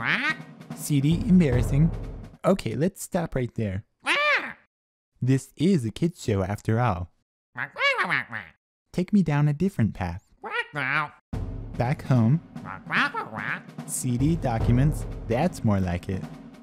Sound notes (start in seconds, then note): 0.0 commanding squawks; 4.0 annoyed squawks; 7.6 complying squawks; 10.4 commanding squawks; 12.6 commanding squawks